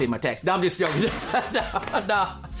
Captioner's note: laughing